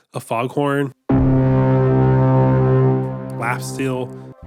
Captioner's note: horn blasts